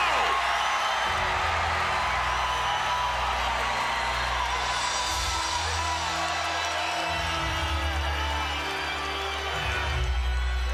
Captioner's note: applause